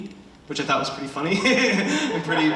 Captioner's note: laughs